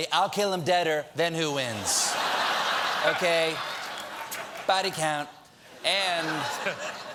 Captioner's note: laughter